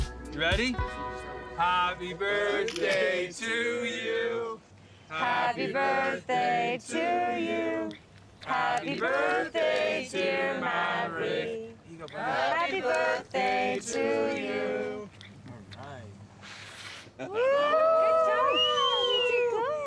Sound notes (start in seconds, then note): 16.4 blowing; 17.3 cheering